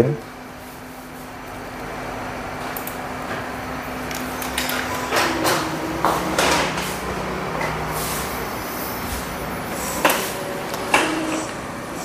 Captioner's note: printer machine noise